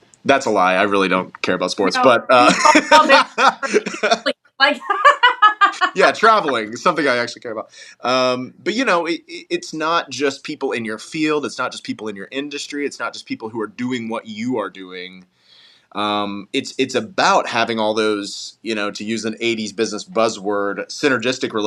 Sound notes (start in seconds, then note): 1.9 laugh